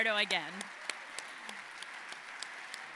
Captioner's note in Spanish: aplausos